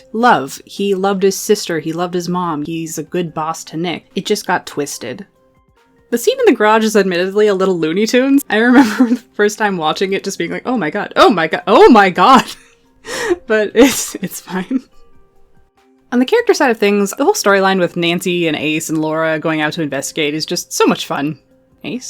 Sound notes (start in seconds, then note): 13.8 laughing